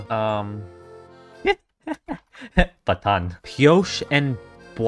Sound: laughs

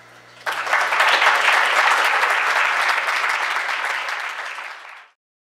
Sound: applause

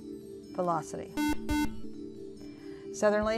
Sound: buzzer

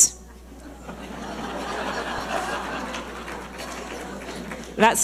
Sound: audience laughing

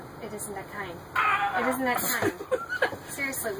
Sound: groans; laughs

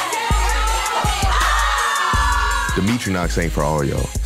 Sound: cheering

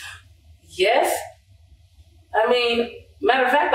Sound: scoffs

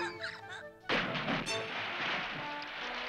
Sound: splashing

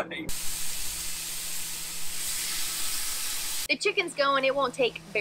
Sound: grill hissing

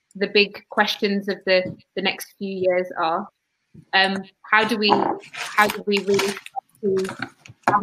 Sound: erm

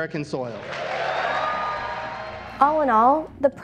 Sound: crowd cheers

